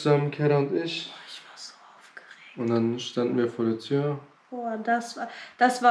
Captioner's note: whispering